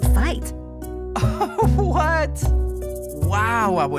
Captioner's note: laughing